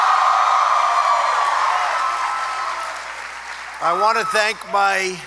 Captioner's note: applause